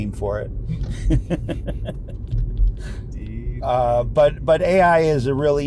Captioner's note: laughs